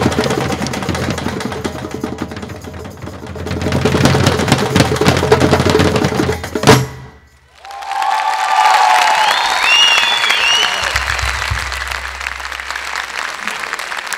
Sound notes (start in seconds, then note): 7.5 applause; 7.5 cheers